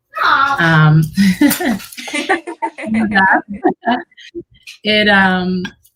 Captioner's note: laughter